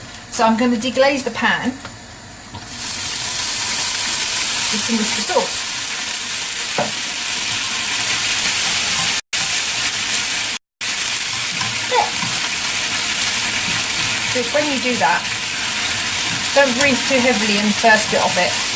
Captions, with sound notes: So I'm going to deglaze the pan with some Worcester sauce [coughs] and when you do that, don't breathe too heavily in the first bit of it,